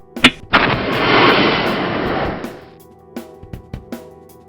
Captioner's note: flare sparking